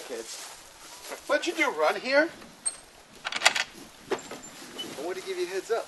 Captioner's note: lock opens